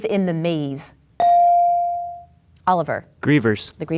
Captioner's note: bell dings